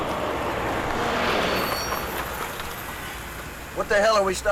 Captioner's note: truck screeches